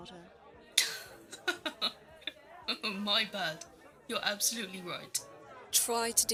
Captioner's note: James laughs, surprised